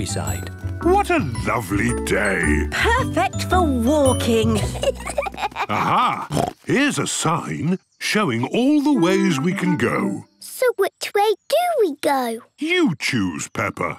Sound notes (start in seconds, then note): 4.4 children giggling; 5.7 snorts